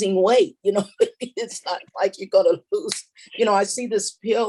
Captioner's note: snaps fingers